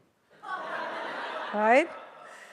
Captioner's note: audience laughs